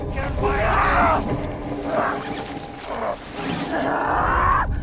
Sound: Eddy yelling

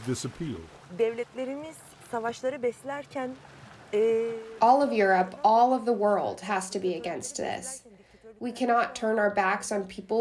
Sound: through translator

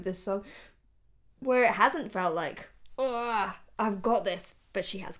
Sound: overwhelmed grunt

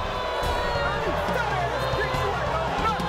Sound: audience boos

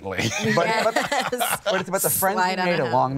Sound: laughs

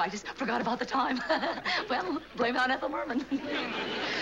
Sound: laughs

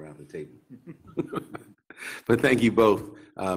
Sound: laughing

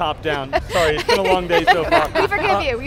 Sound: laughter

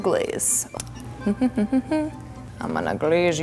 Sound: humming

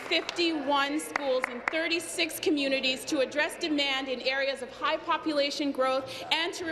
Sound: applause

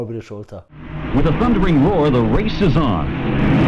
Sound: engine sounds

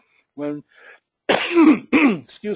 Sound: sneezing

